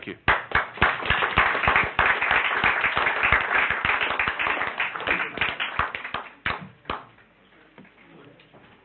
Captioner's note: clapping